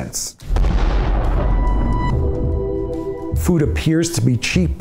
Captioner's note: explosion